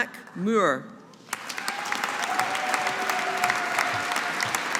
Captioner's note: audience applauding